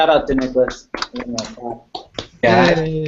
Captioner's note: applause